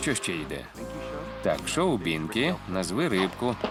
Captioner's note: audience laughing